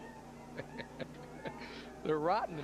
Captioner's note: laughter